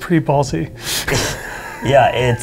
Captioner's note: laughter